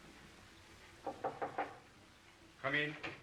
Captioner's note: knocking at the door